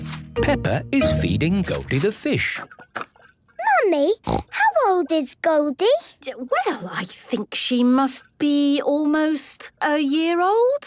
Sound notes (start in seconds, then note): 4.2 snorting